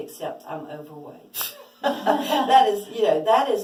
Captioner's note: laughs